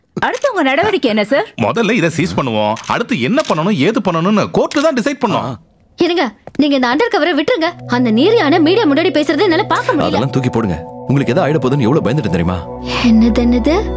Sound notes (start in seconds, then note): none